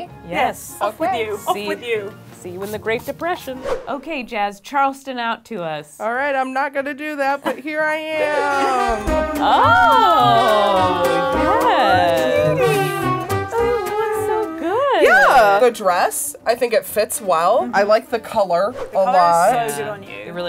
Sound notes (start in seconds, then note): 8.9 cheering in approval